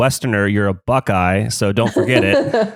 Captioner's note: laughs